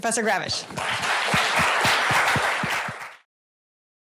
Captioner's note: applause